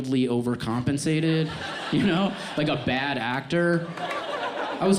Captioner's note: audience laughs